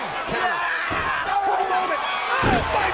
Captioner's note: DiBiase yelling